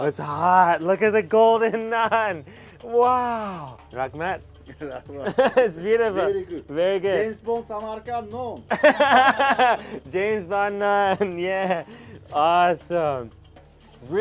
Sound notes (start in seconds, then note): 8.7 laughing